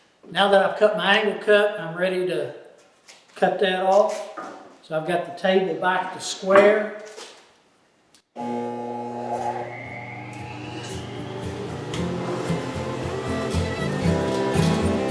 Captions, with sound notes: Now that I've cut my angle cut, I'm ready to cut that off. So I've got the table back to square. (saw humming) (upbeat country music)